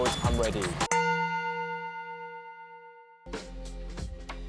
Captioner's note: bells